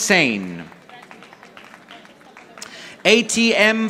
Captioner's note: audience applauding